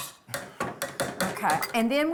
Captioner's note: utensil banging